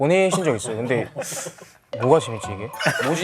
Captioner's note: inhales